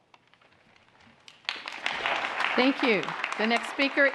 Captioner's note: applause